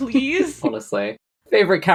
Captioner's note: laughs